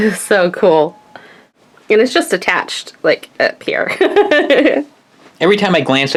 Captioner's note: laughs